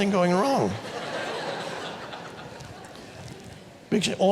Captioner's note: audience laughs